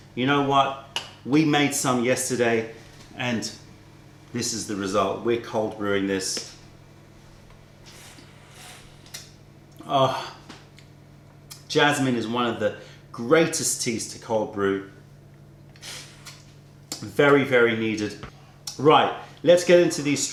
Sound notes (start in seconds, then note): 7.8 sips tea